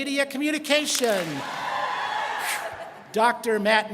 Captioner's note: students clap and cheer